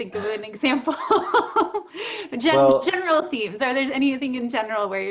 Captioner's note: laughter